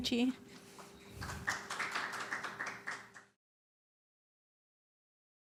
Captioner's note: applause